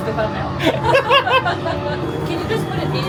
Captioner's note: laughing